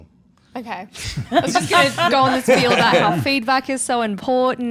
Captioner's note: all laughing